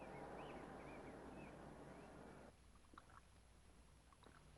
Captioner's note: birds chirping